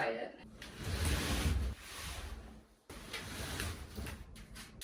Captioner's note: mattress scraping